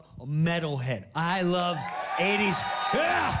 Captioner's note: cheers and applause